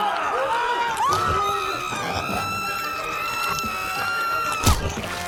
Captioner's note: zombie miss gudi growling; vivien screaming